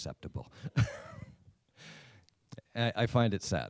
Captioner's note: laughs